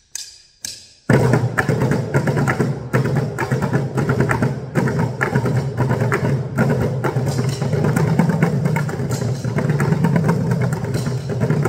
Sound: groovy bucket noises

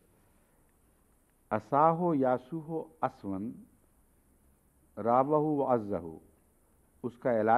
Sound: Arabic

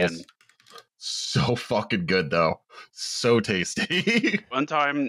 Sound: laughs

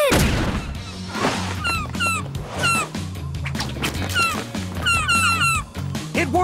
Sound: squawking

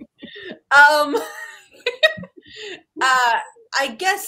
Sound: laughs

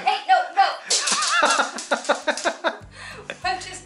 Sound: laughter

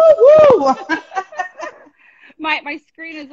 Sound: laughing

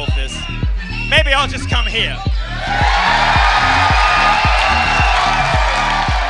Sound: cheering

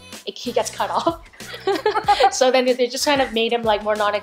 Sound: laughing

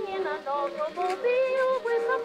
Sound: ASMR paper sawing sounds

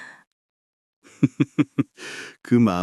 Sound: laughs

